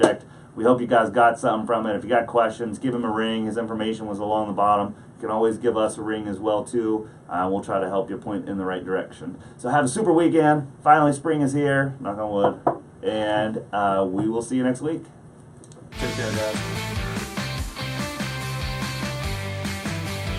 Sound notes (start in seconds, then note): 12.4 knocking; 15.9 upbeat rock music